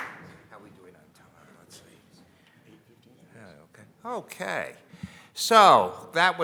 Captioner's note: audience applauding